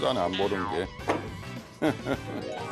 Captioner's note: thick dialect